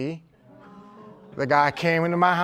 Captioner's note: crowd murmuring